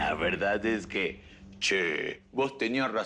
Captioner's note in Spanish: Imita acento